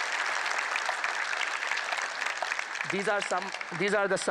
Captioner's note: applause